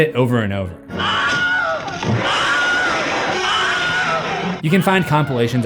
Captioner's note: screams, over and over